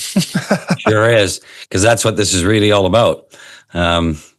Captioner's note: laughs